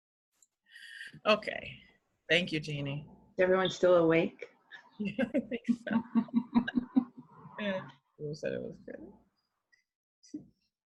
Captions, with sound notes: Okay. Thank you, Jeanne. - Everyone's still awake? (both laughing) - Chloe said it was good.